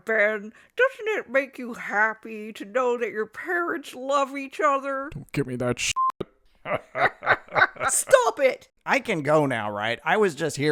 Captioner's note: more evil cackling